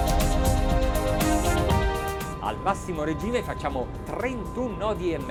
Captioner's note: speaking Italian